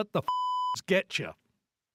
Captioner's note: beep